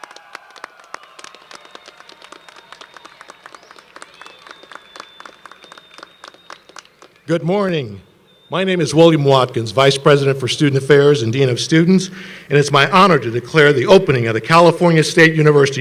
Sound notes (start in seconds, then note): 1.5 applause